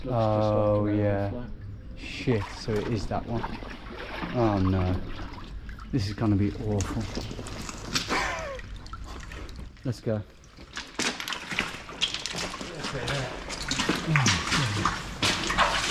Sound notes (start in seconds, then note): 10.7 sludge sloshing